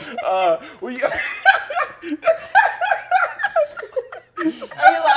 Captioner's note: giggling hysterically